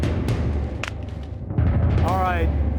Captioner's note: gun popping